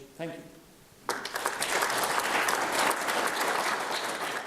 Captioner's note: audience applauds